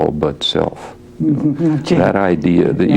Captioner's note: laughs